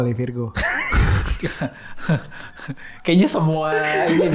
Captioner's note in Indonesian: tertawa